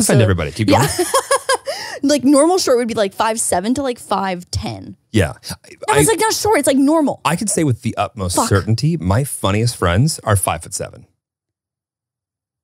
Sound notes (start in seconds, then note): 0.0 laughs